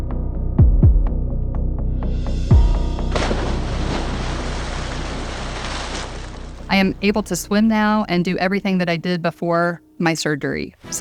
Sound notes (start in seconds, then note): 0.3 tense music continues; 3.1 splashes